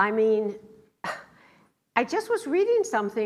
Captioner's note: laughs